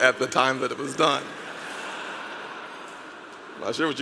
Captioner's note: audience laughing